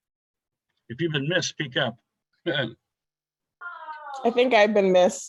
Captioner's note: chuckles